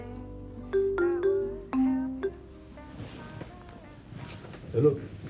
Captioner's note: ringtone playing